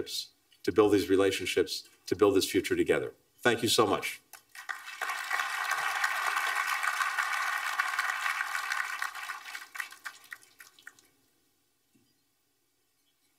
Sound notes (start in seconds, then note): 4.4 applause